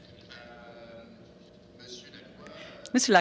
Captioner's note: speaking french